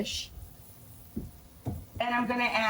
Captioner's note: food sizzles in pans